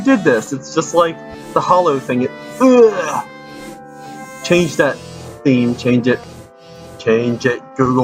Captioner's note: throws up